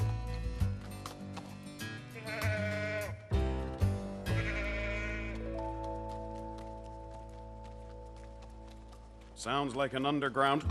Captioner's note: bleating